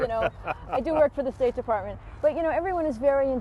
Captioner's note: laughter